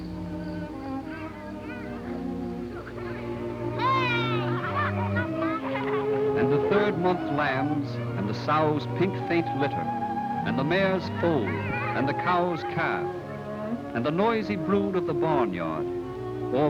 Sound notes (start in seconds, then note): 0.9 laughter